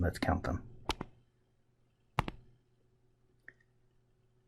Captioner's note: writing Sounds